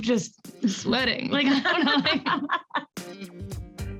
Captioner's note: both laughing; upbeat music